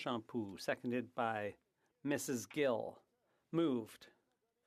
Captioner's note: speaking French